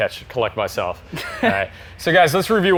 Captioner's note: chuckles